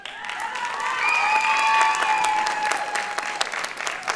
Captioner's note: applause